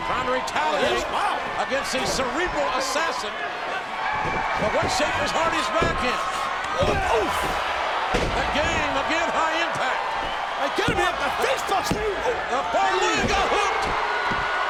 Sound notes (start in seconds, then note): 8.5 bodies thud; 14.4 audience cheering